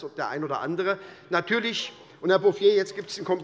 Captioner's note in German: Zurufe von der CDU und der SPD